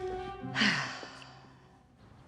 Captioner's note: sighs